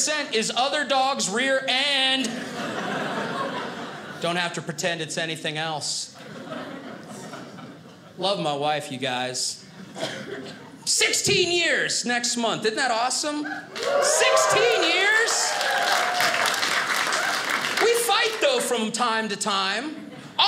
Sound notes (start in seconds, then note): 13.6 audience cheers; 15.5 audience applauding